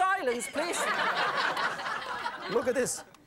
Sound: audience laughing

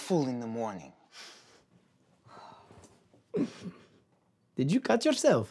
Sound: Babacar sighs, Dawit chuckles

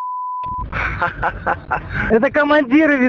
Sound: laughs

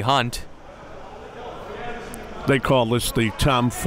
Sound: laughing

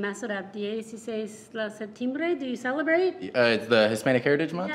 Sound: speaking in foreign language

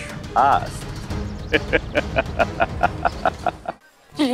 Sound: laughing

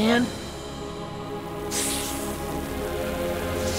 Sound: hissing

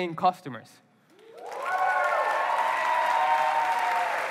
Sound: applause

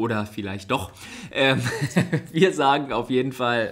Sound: laughs

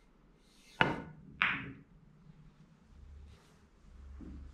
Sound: pool balls tapping

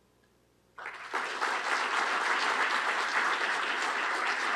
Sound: applause

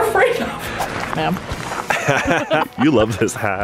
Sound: laughing

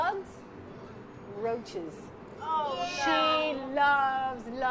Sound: children exclaiming

